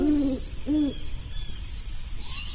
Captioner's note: owls hooting